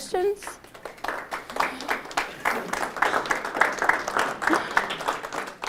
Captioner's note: applause